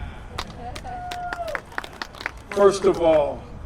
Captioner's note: cheer